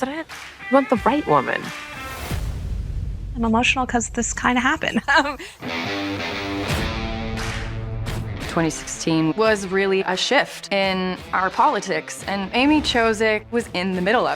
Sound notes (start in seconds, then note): 4.8 chuckles